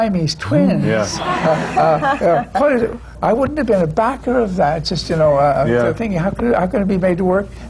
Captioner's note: laughter